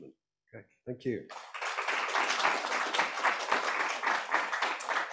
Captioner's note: applause